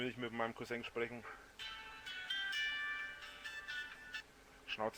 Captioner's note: cell phone rings